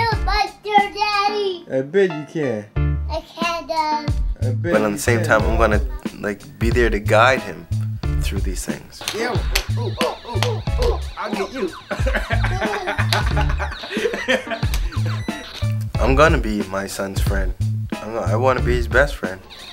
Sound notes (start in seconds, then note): 11.5 laughter